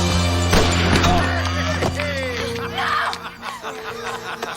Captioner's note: Harry laughing